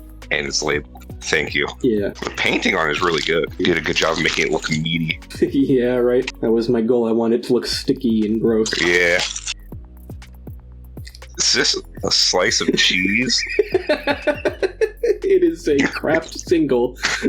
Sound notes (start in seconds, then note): 12.6 laughing